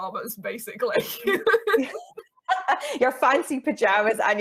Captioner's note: laughing